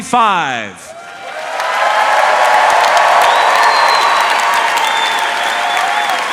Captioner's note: audience cheering and applauding